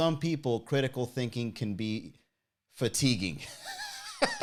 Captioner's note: laughs